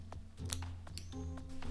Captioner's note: snip